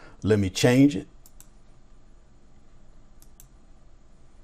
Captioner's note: mouse clicks